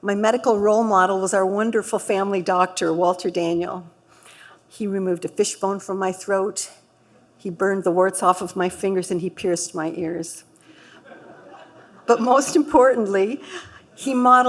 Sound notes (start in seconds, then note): 10.9 laughter